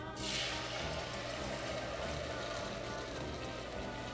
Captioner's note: sizzles